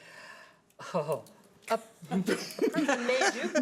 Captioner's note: laughing; chuckles